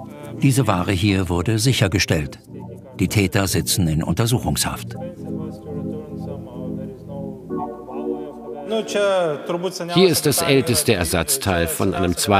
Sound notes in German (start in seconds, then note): 5.0 Leise Stimmen